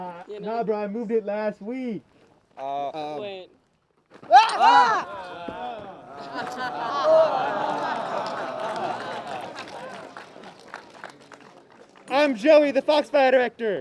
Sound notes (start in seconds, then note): 2.5 screaming; 6.3 laughing